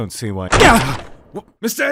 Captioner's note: door opens